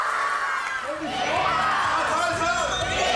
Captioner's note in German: Jubel